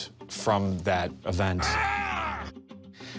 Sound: man grunts

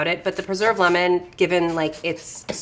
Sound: none

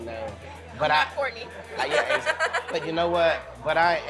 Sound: laughs

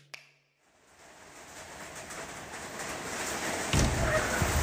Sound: rain pattering

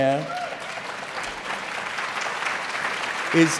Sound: applause

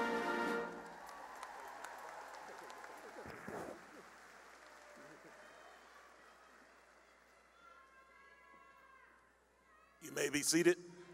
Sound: cheering and applause

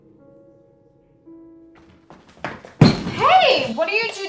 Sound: door flies open making a rukus

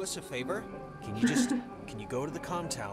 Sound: laughs

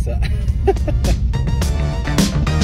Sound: laughter

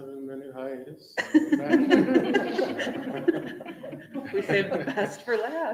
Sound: members laughing

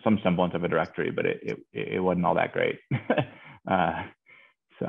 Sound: laughs

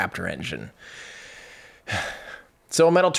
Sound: sighs

